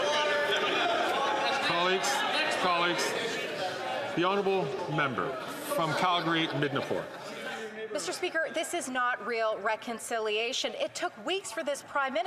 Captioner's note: applause